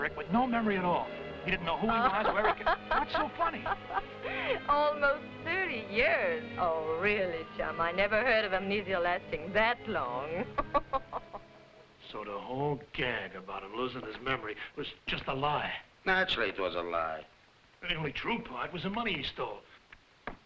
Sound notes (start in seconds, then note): 1.9 Raina laughing; 10.3 laughing